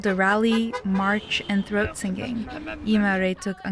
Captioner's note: chanting